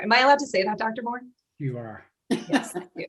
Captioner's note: laughter